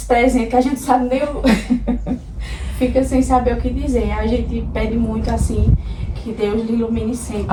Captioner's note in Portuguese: risadas